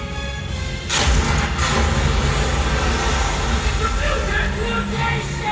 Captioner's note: crashing water